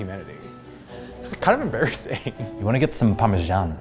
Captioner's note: laughs